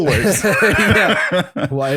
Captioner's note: laughter